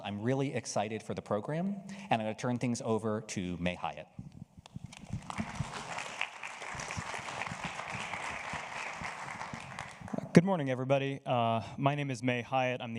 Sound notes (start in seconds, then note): 5.1 audience applauds